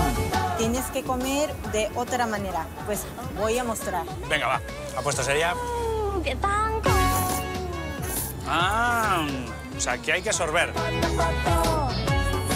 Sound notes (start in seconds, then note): 6.9 sip